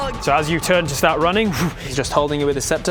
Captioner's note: voom